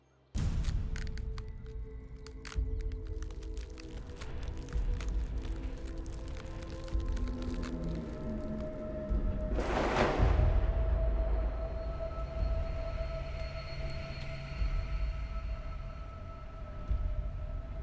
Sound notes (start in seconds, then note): 0.5 dramatic music; 9.1 thundering